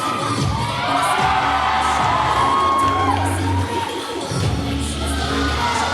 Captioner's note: audience cheering; cheer music playing